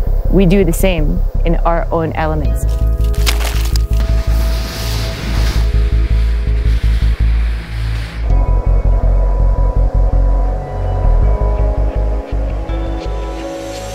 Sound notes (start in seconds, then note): 2.6 ice cracking; 4.5 snow slushing; 8.3 upbeat music